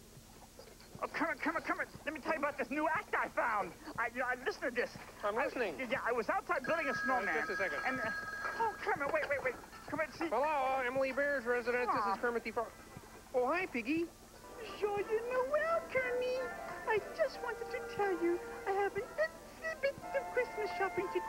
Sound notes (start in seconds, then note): 6.6 telephone rings